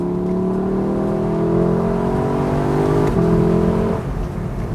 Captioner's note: car engine revs loudly